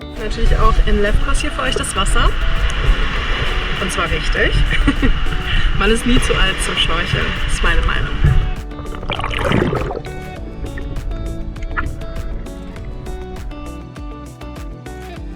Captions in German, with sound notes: "Ich teste natürlich auch in Lefkos für euch das Wasser. Und zwar richtig. *lacht* Man ist nie zu alt zum Schnorcheln, meine Meinung."